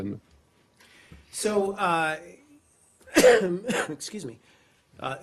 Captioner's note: coughs